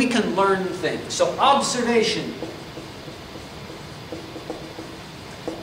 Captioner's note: marker clacks